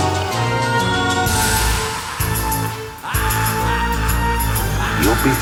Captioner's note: screams, evil laughter